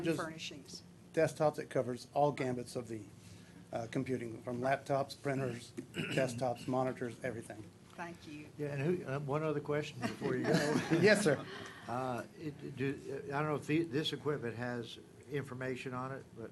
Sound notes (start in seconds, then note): 10.0 laughter